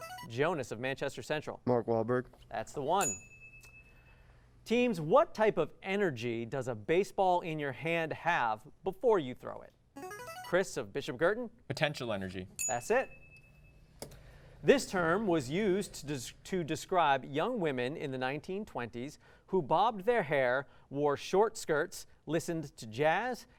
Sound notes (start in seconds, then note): 10.1 buzzer